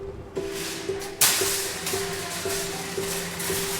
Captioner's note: shopping carts rattling